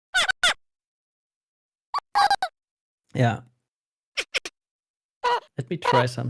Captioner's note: game grunting noises